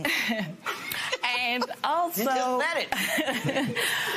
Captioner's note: laughs